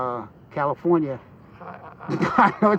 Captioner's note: stammering